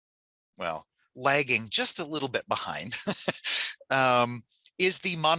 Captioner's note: laughs